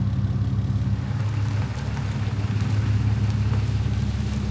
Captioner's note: truck rumbling